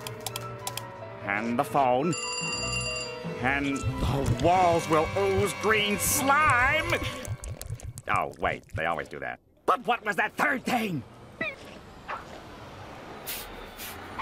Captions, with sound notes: and the phone. [phone ringing] And the walls will ooze green slime! Oh, wait. They always do that. But what was that third thing?